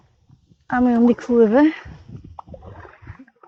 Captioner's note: paddling